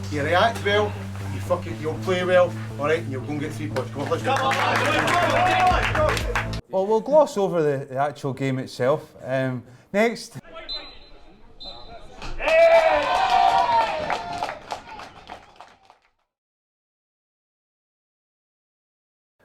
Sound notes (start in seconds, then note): 3.6 team members clapping; 10.5 referees whistle; 12.0 crowd cheers